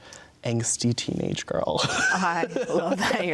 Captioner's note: laughs